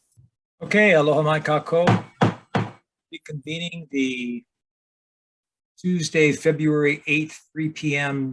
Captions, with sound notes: Okay, aloha mai kakou. (gavel banging) Reconvening the Tuesday, February 8th, 3:00 PM